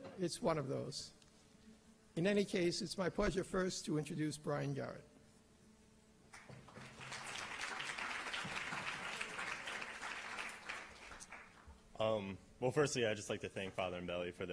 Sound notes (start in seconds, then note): 6.3 applause